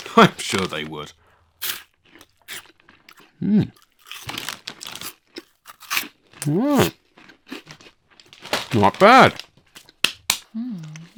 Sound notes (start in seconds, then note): 3.7 crunching